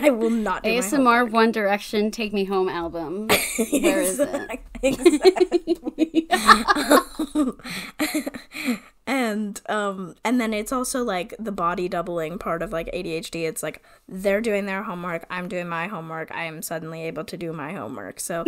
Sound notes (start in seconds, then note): 0.4 laughs